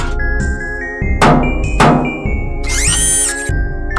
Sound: bang, Bang

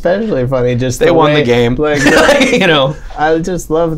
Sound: laughter

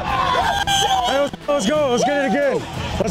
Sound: cheering

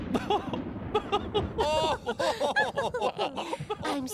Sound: laughter

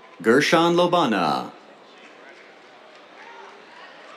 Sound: applause

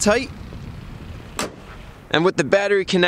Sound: hood slams shut

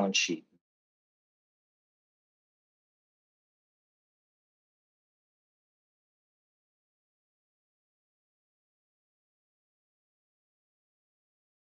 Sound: no audio

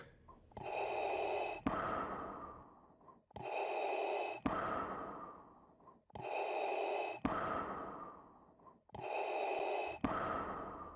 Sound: heavy breathing

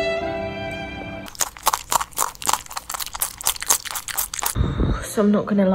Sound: crunching noise

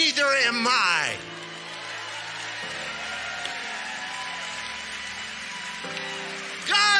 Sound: congregation cheering and clapping

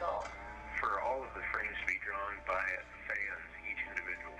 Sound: voiceover

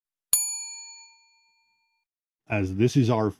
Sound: ding

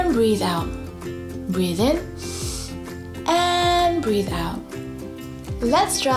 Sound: breathes in deeply

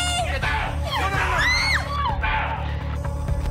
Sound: screams

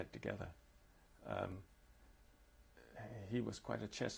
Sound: pauses for 3 seconds

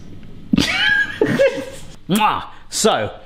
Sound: man laughs

